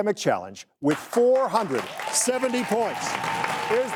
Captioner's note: audience applauding